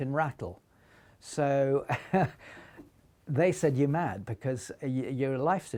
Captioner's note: laughs